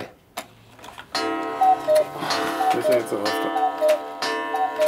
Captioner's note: cuckoo call, pendulum lute